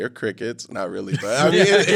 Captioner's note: all laughing